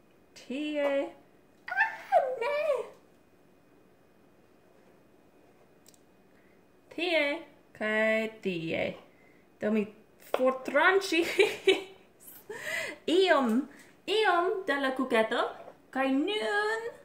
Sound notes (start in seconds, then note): 11.5 laugh